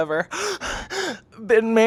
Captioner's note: gasping